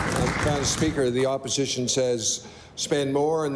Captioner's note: applause